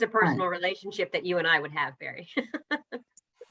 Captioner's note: laughter